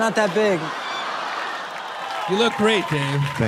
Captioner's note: people laughing